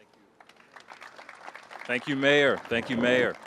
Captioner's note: applause